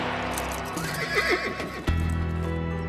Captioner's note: neighs